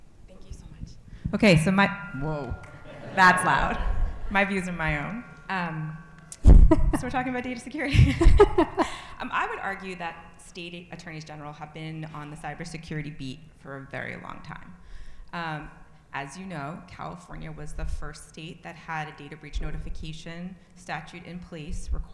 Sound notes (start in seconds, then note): 2.5 audience laughing; 7.9 laughing